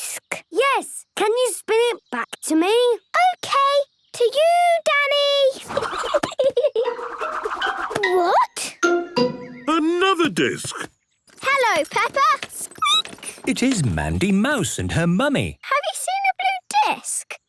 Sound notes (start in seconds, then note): 5.6 giggling; 11.3 squeaking